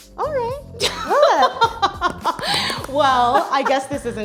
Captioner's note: laughs